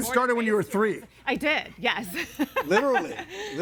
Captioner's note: laughs